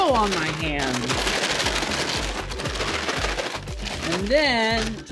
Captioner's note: loud rustling